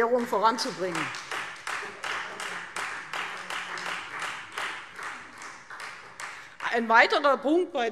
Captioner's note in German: Beifall Freie Demokraten